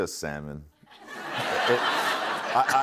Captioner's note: laughter